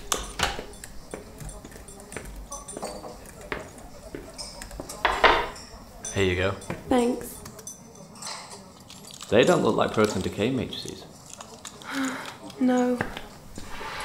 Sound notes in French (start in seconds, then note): 11.8 Soupire